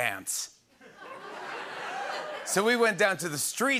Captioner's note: laughter and cheering